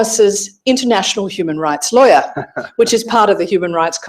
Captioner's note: laughing